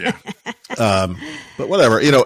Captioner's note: laughing